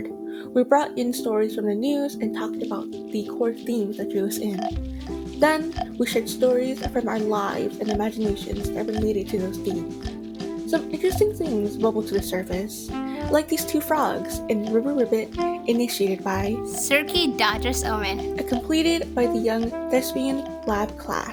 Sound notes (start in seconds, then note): 4.5 frog croak